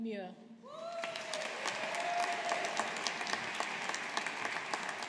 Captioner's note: audience applauding